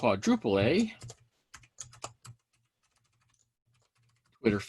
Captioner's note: keyboard clicking